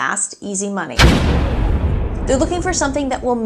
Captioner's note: explosion booms